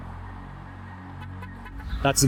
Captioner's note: horn honking